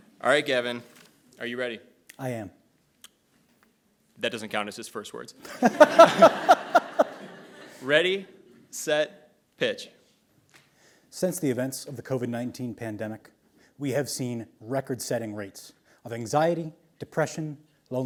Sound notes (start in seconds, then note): 5.4 laughs; 5.4 audience laughs